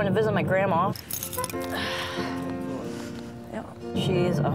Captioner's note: sighs